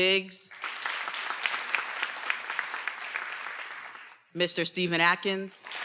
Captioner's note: everyone applauding